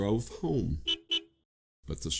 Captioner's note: car horn honks in farewell